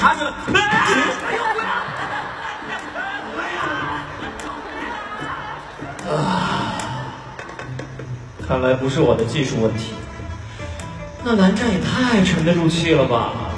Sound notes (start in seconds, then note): 5.9 sighs